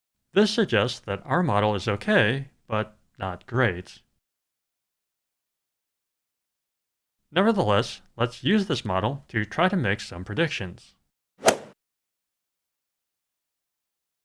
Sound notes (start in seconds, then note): 11.4 swoosh